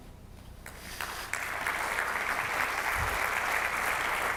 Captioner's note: audience applauds